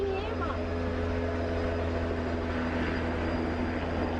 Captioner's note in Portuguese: som de aeronave